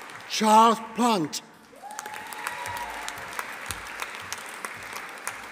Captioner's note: audience applauding